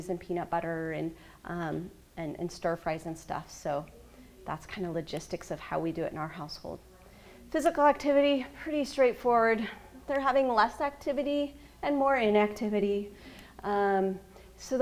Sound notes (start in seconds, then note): none